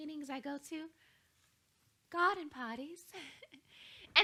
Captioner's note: chuckles